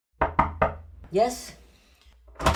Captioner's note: door raps